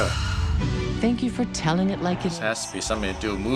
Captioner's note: voice-over